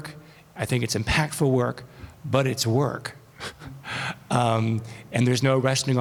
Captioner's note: chuckles